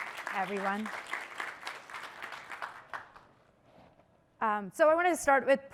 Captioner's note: applause